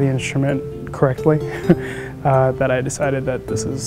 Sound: chuckles

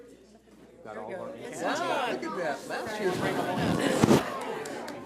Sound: people chattering

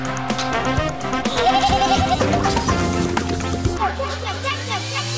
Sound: up-tempo music; bleating

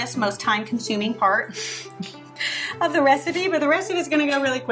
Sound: chuckles

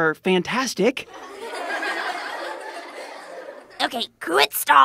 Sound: laughter

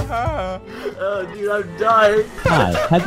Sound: intense laughter

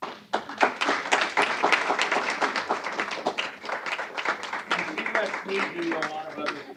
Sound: applause

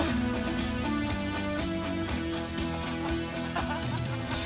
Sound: laughing

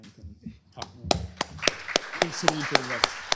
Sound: applause

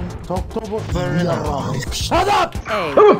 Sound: unknown language

